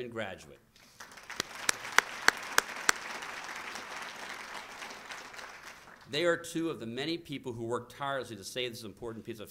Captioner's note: applause